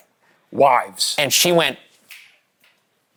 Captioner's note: snaps